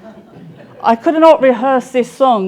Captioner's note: audience laughing